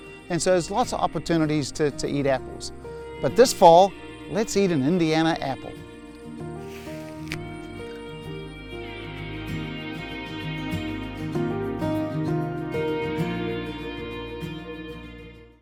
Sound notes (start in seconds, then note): 6.6 apple crunch